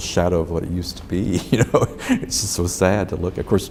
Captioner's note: laughs